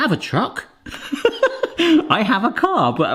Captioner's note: laughing